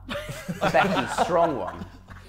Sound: Sidemen laughing

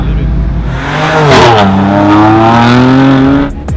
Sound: engine roaring

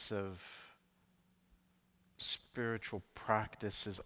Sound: none

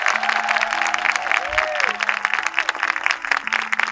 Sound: audience cheering; audience applause; clapping

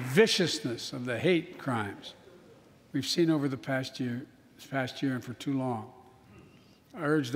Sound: applause

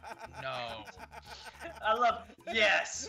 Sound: laugh

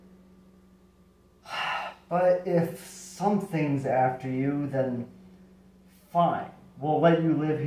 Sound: sigh

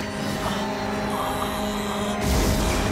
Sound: groaning

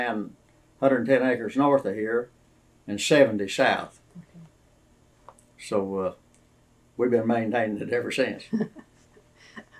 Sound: laughter

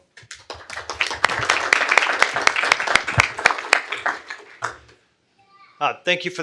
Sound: applause

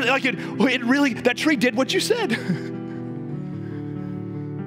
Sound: chuckling

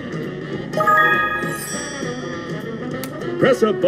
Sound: bell dings

